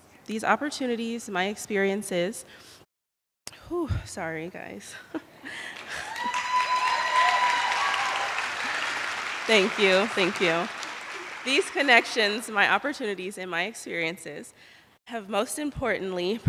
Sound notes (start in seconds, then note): 5.6 attendees applauding